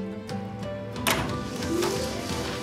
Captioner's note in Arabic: يفتح الباب